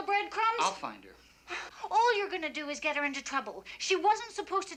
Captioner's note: sighs